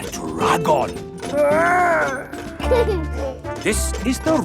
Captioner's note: giggles